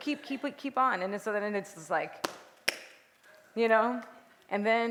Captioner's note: two taps